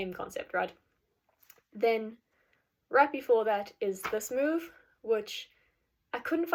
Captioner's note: clapping